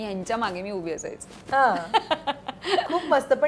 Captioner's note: Chuckles